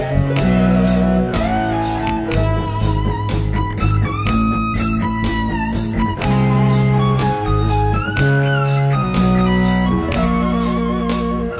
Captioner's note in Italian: Applauso